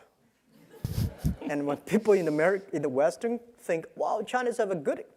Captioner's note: laugh